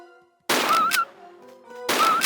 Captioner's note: bam